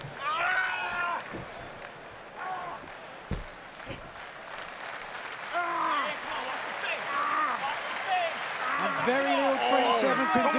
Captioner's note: crowd cheering